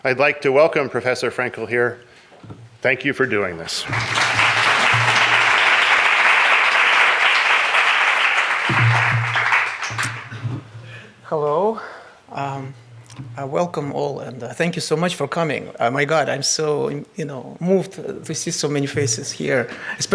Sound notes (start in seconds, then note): 3.7 audience applauds